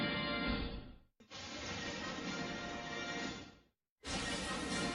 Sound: lightning and music resuming

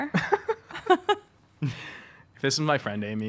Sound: laughing

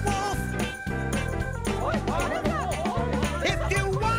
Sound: villagers all talking

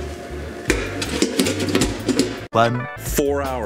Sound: pan rattles

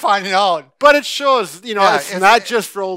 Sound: laughing

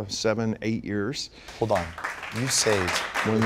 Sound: applause

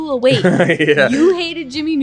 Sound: laughing

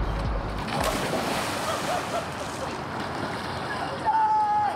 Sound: gentle playful music continues; water splashes; shouts

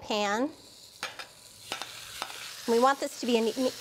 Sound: sizzling

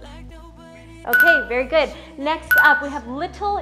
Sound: timer beeps

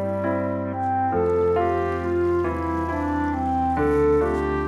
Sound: water rushing

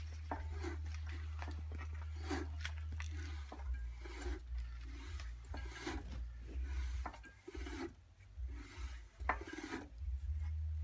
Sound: clinking noises; whooshing of cylinder

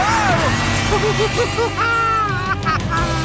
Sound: laughing

